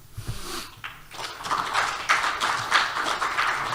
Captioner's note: applause